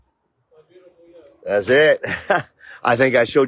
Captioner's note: laughs